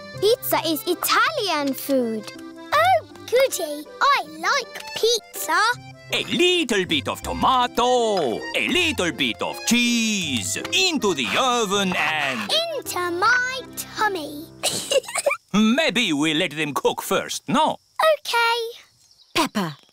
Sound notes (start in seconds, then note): 14.6 giggles